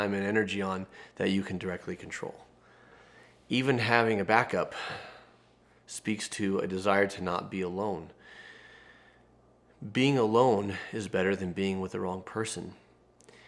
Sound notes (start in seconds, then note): none